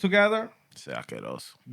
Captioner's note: speaking Spanish